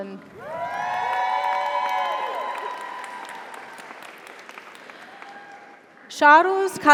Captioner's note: audience applauds; audience cheers